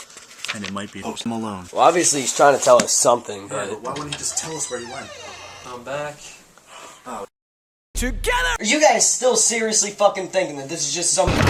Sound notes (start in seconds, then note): 6.7 sigh